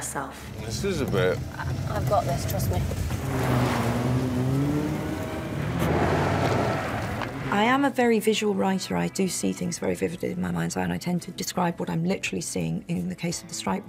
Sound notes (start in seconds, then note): 3.5 car engine revving